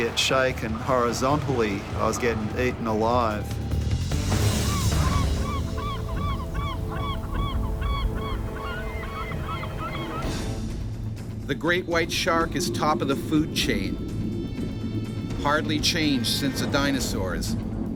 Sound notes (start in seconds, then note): 4.6 birds call; 11.6 voiceover